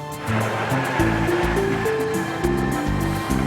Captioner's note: engine revving